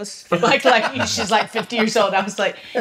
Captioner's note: laughs